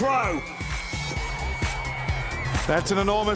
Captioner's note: crowd cheering